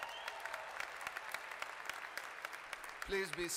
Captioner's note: applause